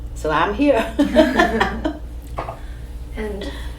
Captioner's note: all laugh